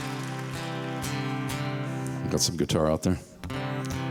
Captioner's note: applause